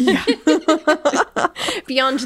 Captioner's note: both laughing